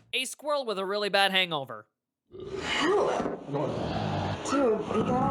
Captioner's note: none